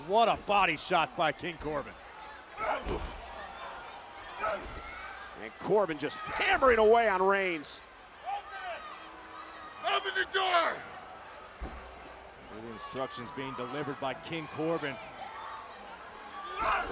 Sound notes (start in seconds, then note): 2.7 Corbin grunting; 2.7 crowd shouting